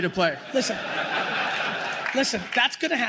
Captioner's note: laughter